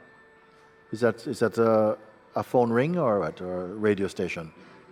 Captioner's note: ringing sound